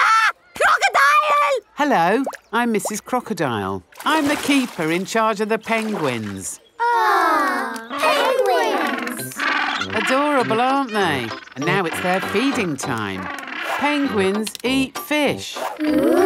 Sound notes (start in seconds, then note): 0.0 screams; 9.0 penguins chatter